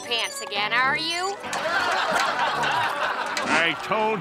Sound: laughing

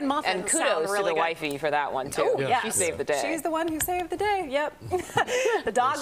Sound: laughter

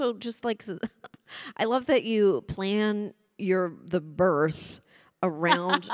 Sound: chuckles

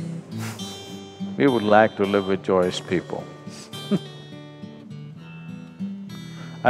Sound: laughs

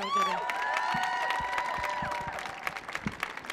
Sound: cheering

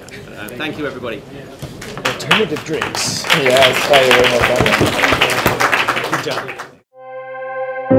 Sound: applause

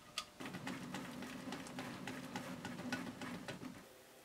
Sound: waffle maker preheating

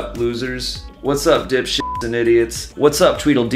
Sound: beeps

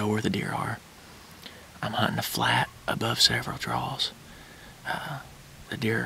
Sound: whispering

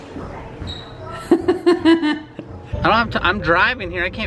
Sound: laughter

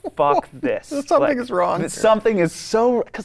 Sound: laughs

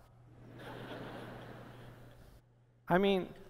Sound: laughter

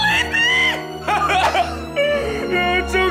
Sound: crying

